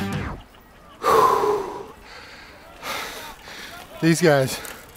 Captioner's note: heaving breathing